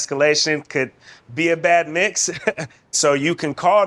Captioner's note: chuckles